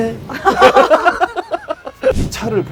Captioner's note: laughs